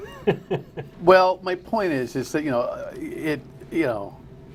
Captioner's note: laughter